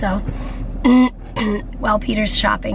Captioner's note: clears throat